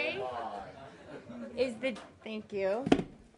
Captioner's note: laughter